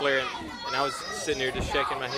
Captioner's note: crowd chatter